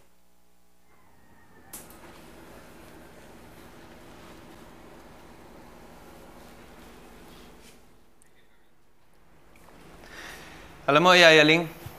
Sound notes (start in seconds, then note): none